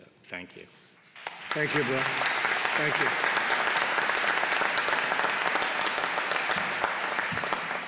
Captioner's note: applause